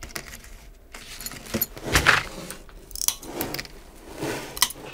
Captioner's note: rattles, cracking